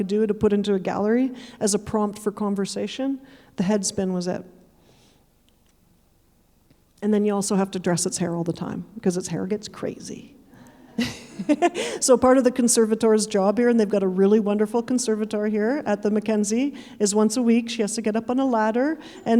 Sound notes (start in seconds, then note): 11.0 chuckling; 11.0 audience chuckling